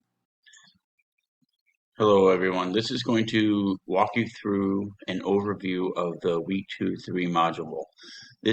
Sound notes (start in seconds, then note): 0.0 silence